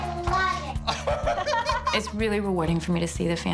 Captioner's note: laughter